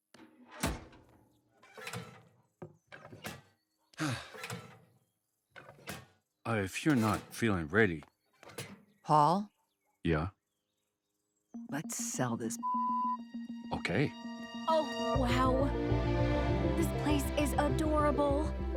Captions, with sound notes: (sighs) (mailbox creaks) - Oh, if you're not feeling ready. - Paul. - Yeah? - Let's sell this (beep). - Okay. - Oh wow, this place is adorable.